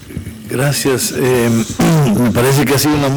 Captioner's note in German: spanisch